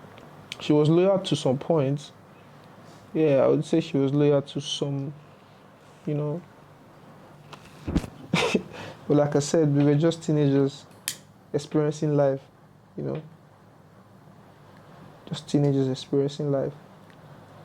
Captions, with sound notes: she was loyal to some points yeah, i would say she was loyal to some... you know (laughs) Well like i said we were just Teenagers experiencing life you know just teenagers, experiencing life